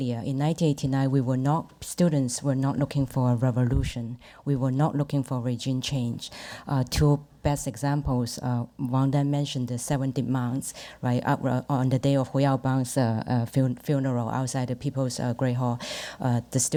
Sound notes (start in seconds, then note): none